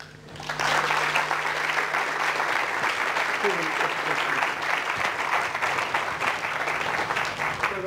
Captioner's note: applause